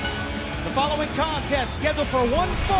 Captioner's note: bell ringing